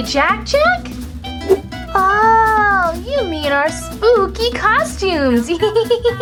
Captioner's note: laughs